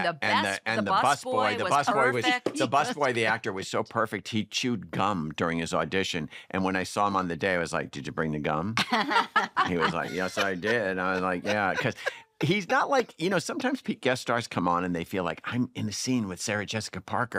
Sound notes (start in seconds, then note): 8.7 laughter